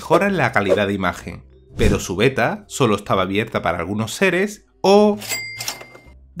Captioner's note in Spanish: sonido dinero